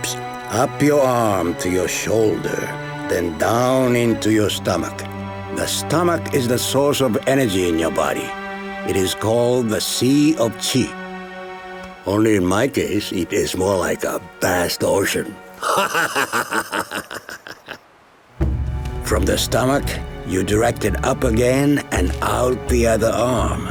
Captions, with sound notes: up your arm to your shoulder, then down into your stomach. The stomach is the source of energy in your body. It is called "the sea of chi". Only in my case, it is more like a vast ocean [laughing] From the stomach, you direct it up again and out the other arm.